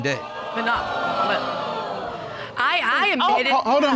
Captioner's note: audience gasping